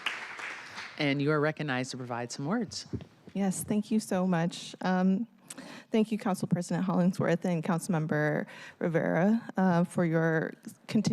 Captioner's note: cheers and applause